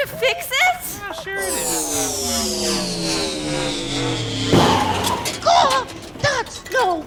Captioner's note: boat whooshing; squawks